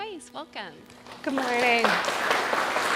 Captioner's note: audience applauding